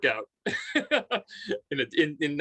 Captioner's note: laughing